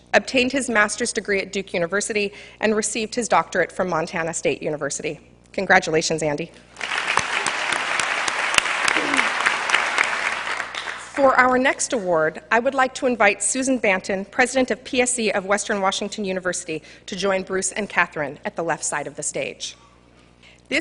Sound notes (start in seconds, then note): 6.8 cheers and applause